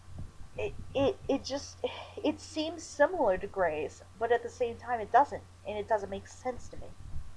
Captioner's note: sighs